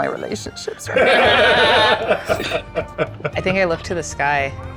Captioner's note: group laughs